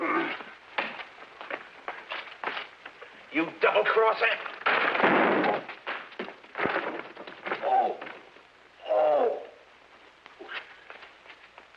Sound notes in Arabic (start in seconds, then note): 4.9 صوت لوح الكي